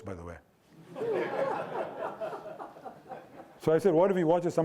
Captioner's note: audience laughing